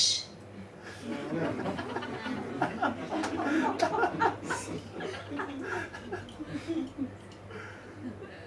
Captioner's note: audience laughs